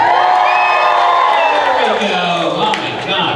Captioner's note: crowd cheering